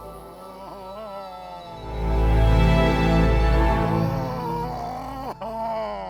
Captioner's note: soft music; James groans